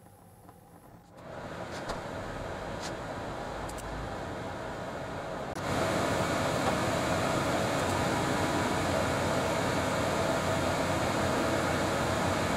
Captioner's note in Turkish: aspiratör sesi